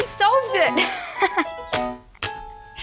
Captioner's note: laughs